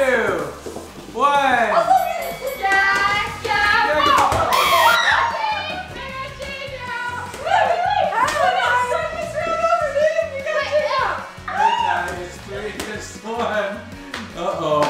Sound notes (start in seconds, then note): 1.8 boxing bell sound; 4.0 ball bounces; 4.5 screaming; 4.5 buzzer